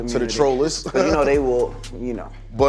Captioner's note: laughs